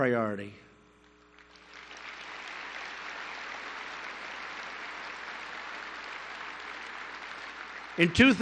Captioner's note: applause